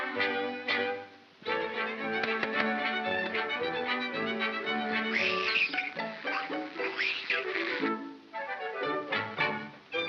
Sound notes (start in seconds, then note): 1.4 whimsical music; 5.0 hissing sound; 5.0 whimsical music